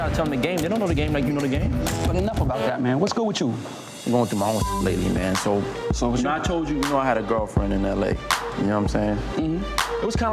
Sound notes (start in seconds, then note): 4.6 beep